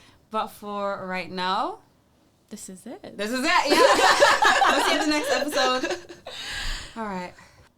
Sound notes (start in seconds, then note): 3.5 laughs